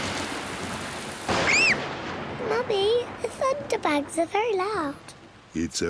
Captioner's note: thunder rumbles; screams